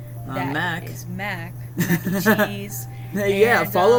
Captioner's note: laughs